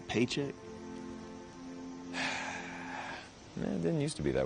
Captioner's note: sighs